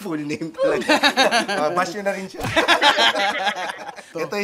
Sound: laughs

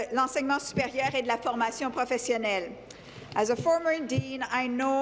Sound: speaking in French

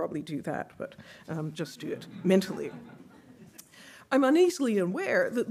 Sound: audience laughing

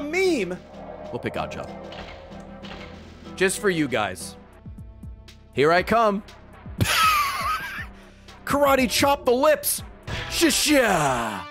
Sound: laughs

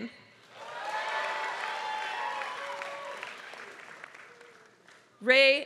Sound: applause

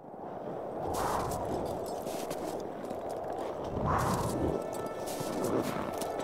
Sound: wind howling

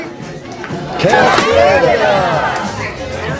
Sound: many calling

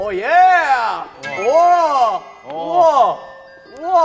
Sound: and endless sound effect in the background

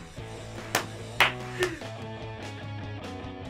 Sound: React claps

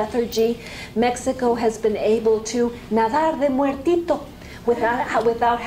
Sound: spanish

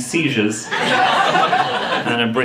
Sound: audience laughing

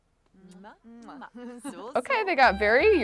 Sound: kissing

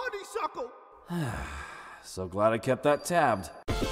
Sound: sighs

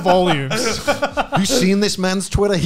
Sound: laughing

